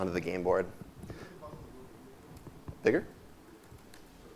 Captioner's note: talking away from microphone